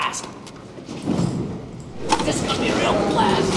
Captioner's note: thud